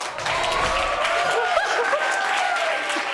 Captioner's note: audience cheering; sobbing